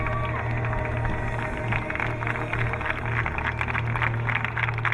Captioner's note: crowd applauding